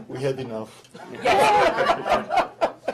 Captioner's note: laughter